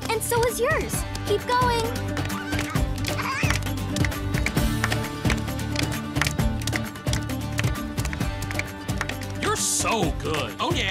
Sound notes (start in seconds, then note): 2.3 gurgling